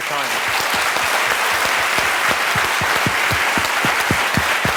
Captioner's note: applause